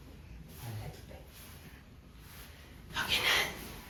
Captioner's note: whispering